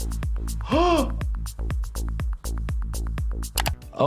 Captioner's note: gasps